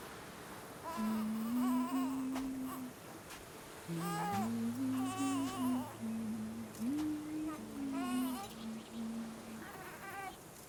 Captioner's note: humming